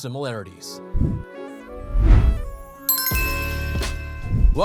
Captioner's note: gentle upbeat music; logo chiming